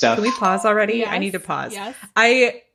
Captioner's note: bing bong sound